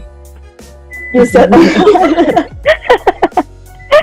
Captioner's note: laughter